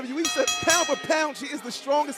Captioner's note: bell ringing